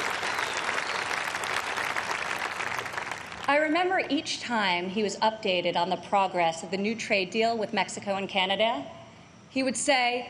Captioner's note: applause